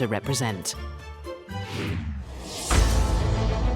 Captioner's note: air whooshing; dramatic upbeat music